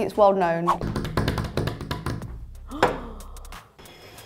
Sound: hands drumming

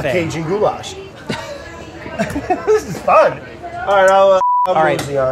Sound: laughs

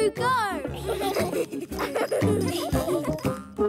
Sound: laughing

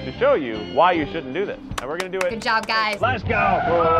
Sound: claps

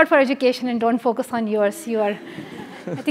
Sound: laugh

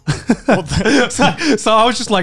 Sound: laughing

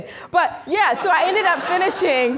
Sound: audience laughing

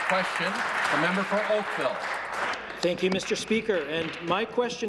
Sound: applause

